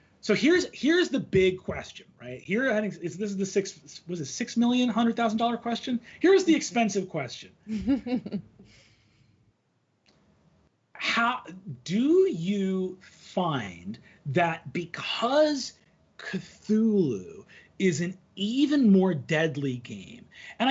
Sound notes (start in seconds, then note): 7.7 laughing